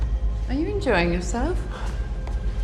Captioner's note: grunting